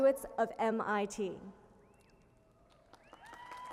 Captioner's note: applause